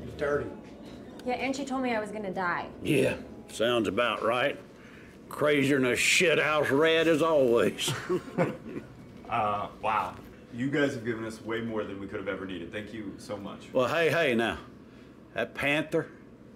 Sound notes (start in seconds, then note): 7.9 everyone laughs